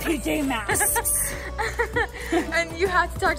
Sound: laughing

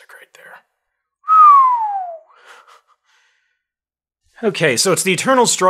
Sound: whistling

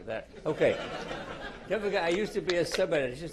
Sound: laughter

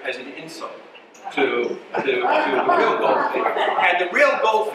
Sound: audience laughs

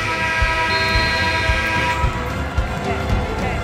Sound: buzzer

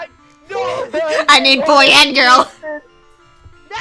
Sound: sobs

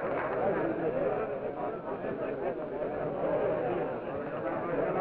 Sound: people chattering

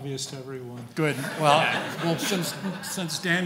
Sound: laughing

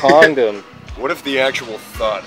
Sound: laughs

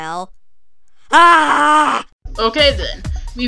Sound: cheers of excitement

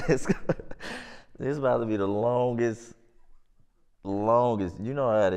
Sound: laughs

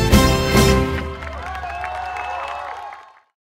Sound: aplausos

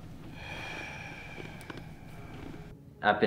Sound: exhales

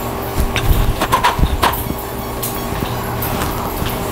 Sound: blowing

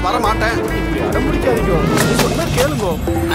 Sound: thuds

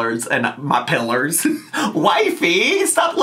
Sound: laughs

